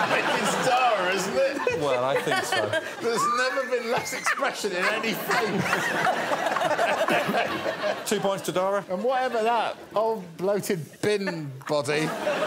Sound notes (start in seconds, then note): 7.9 laughs